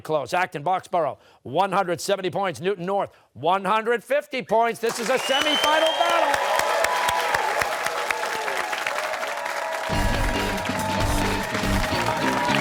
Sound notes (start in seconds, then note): 7.4 cheers and applause